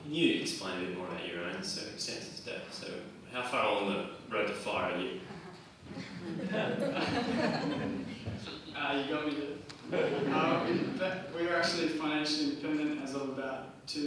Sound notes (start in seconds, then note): 5.8 audience chuckles; 9.8 audience chuckles